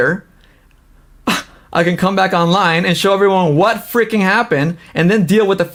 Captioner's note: scoffs